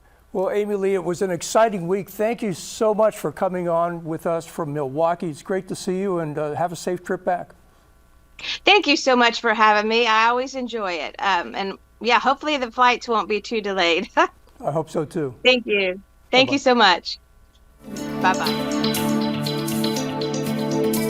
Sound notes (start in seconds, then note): 13.9 laughs; 17.8 gentle music